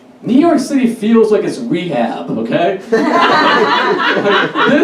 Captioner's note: audience Laughs